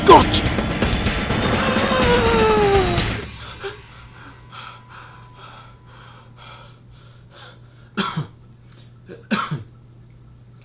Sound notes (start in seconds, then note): 1.1 gasping; 7.8 coughing